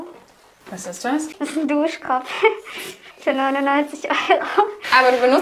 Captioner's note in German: lacht